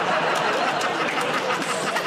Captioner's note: laughter